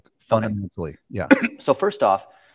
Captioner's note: coughs